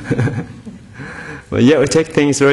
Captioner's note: audience laughing